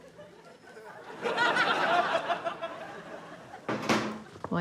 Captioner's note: laughter